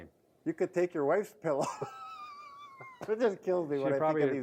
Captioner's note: laughing